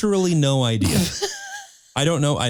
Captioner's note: laughing